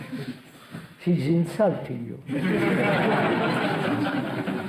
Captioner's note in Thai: หัวเราะ